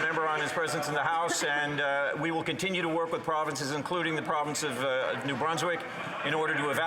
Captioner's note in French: voix de l'interprète